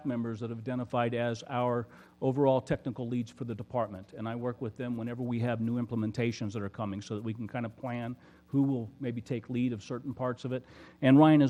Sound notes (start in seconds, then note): none